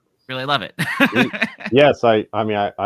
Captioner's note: laughs